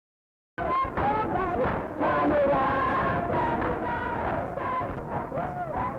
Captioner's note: protesters chanting and clapping